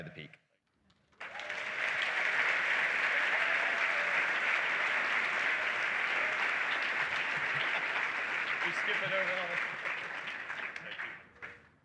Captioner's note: applause